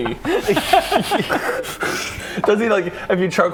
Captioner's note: cheerful laughter